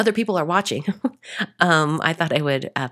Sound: chuckling

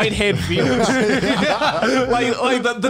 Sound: laughs

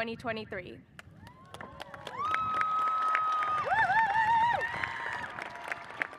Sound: audience cheers and applauds

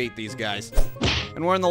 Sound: whooosh-thwack!

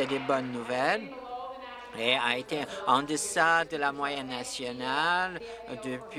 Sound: applause

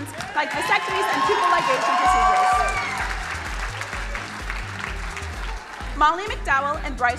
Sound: crowd cheering

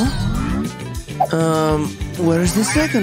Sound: groans

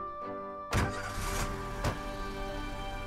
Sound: car starts off

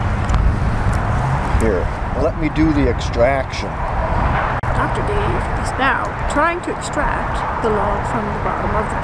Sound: play-by-play voice

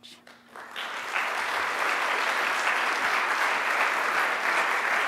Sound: audience applauding

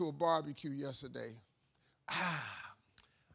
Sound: sighs

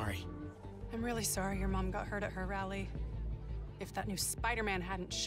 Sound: none

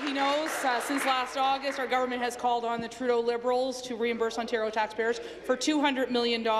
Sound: applause

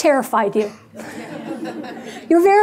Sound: audience laughing

